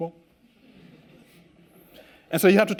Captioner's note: students laugh